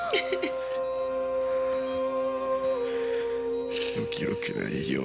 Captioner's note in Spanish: Risas